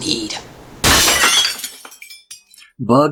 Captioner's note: loud glass crash